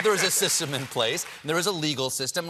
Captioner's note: applause